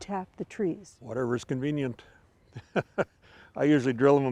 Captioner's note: laughing